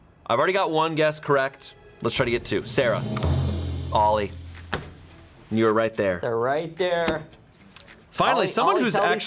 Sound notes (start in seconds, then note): 1.8 tense music building; 3.2 button clicks; 4.6 taps